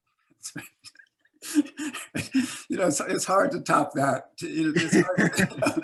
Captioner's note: laughs